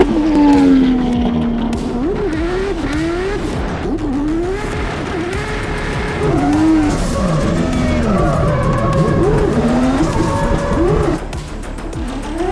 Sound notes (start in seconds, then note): 4.3 race car revving continues